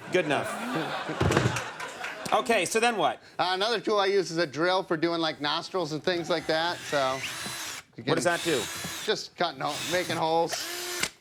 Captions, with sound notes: Good enough. (audience laughs) Okay, so then what? Another tool I use is a drill for doing, like, nostril and things like that. What does that do? Just making holes.